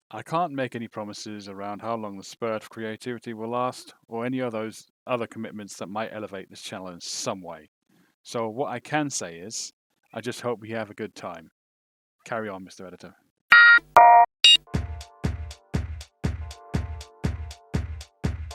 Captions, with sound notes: I can’t make any promises around how long the spurt of creativity will last, Or any of those other commitments that might elevate this channel in some way. So, what I can say is, I just hope we all have a good time. Carry on Mr editor. [ Electronic beeps, music continues ]